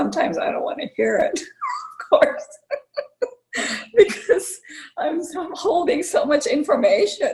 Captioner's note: laughter